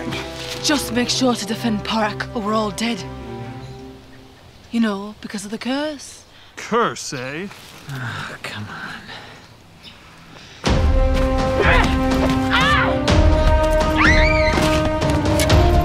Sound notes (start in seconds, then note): 7.8 sighs; 11.6 grunts, screams